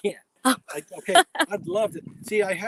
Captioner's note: laughs